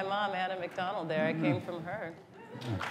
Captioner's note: applause